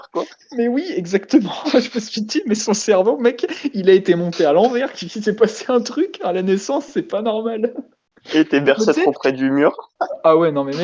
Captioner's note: laugh